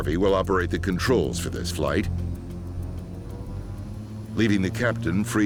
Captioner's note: engines accelerating